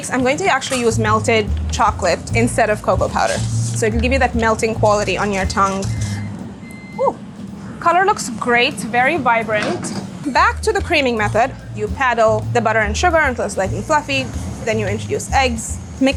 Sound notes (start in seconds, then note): 5.9 oven beeping